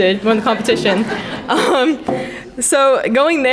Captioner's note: crowd laughing